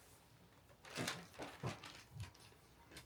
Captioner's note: I am rustling around, unable to say anything